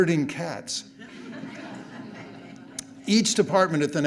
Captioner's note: audience laughing